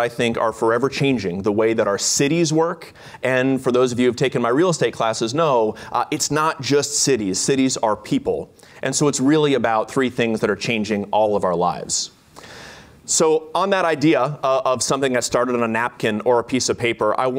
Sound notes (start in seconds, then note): none